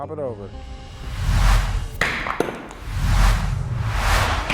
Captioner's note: intense whooshing; wood bangs; glass breaking effect; slow motion whooshing